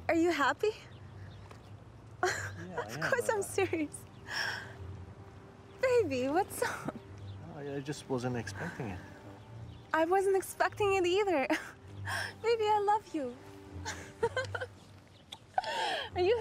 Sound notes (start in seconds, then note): 2.2 laughing; 11.6 laughs; 13.8 laughing